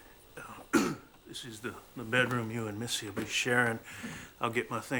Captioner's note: clears Throat